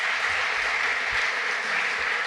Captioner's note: applause